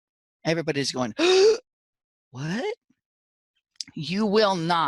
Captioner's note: gasp